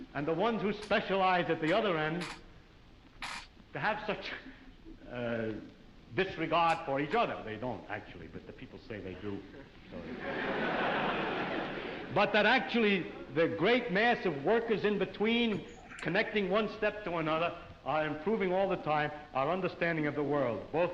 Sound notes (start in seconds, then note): 10.0 audience laughs